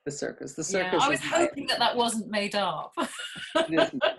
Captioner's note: laughs